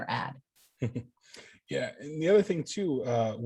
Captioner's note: chuckling